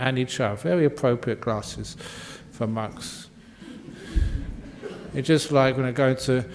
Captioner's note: laughter